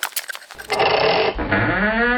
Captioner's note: footsteps; ratcheting; squeaky door